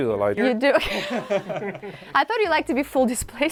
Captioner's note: group laughing